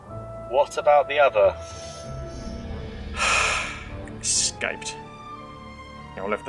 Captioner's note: sighing